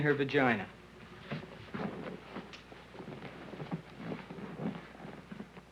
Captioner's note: seat cushion rustles